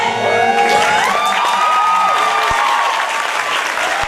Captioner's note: applause